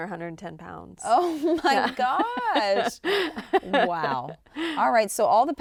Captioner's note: chuckles